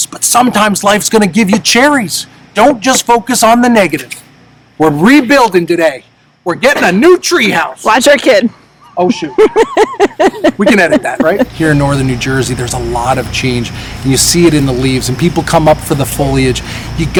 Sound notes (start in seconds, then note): 8.8 laughing